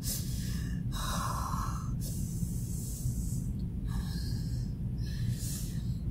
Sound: breathing slows down

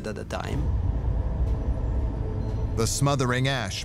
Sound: deep rumble

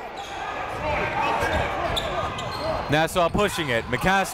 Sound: crowd talking

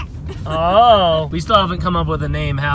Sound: laughs

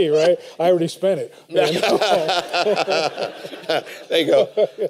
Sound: laughter

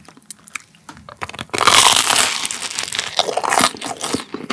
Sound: crunch!!!

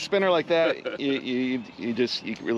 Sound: chuckling

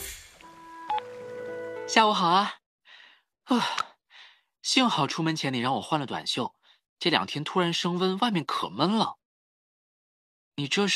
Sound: sigh

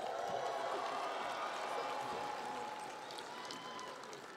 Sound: crowd cheering

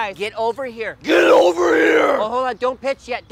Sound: deep threatening voice

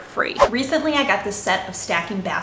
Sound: air whooshing

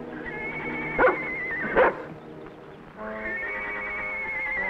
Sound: horse whinnies

